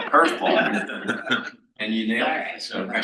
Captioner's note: panel laughs